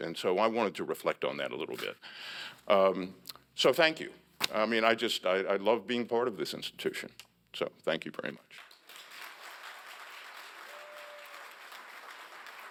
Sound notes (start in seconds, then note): 8.5 applause